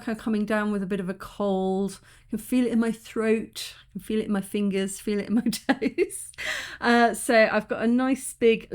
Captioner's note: laughing